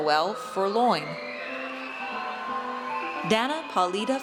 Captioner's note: audience cheers